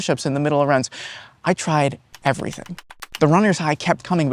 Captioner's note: frames click